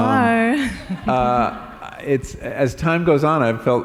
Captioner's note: laughter